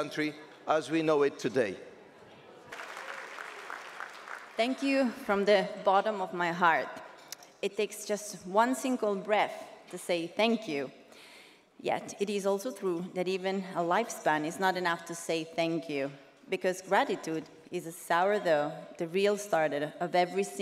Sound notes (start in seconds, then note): 4.2 audience applauding